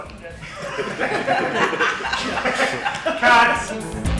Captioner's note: cast laughing